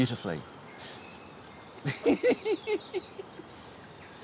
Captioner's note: laughing